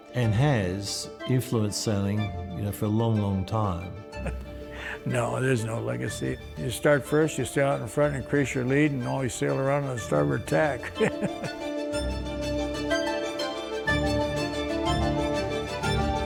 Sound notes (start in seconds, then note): 9.9 chuckles; 12.5 upbeat sea shanty music